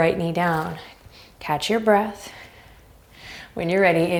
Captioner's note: deep breaths